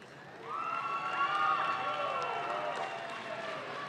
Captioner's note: audience claps